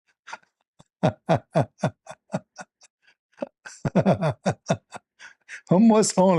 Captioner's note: Ketawa